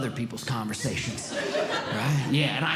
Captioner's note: audience Laughing